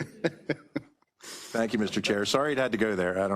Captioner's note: participant laughing